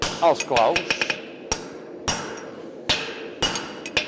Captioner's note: sharp metallic hammering